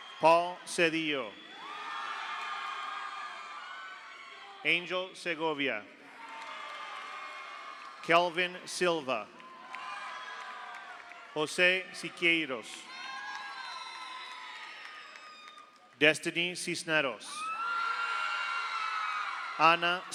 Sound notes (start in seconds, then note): 0.0 audience applauds; 0.0 audience cheers; 1.4 audience applauds; 1.7 audience cheers; 6.1 audience applauds; 6.1 audience cheers; 9.4 audience applauds; 9.4 audience cheers; 12.8 audience applauds; 17.4 audience cheers; 17.5 audience applauds